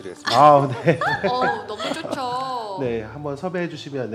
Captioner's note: laughter